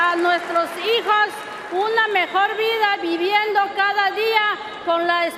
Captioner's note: speaking Spanish